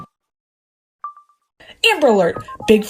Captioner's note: iPhone ending video recording beep; iPhone video recording beep